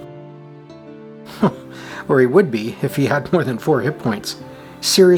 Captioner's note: chuckles